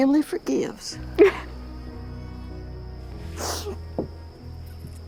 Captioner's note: sobbing